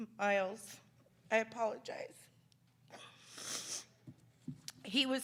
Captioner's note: sniffling